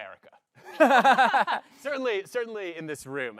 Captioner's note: laughs